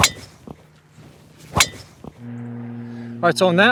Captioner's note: ball cracking